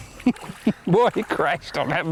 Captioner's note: laughter